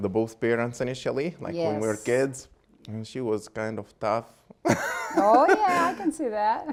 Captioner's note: laughing